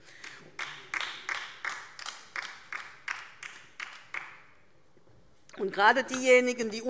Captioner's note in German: Beifall DIE LINKE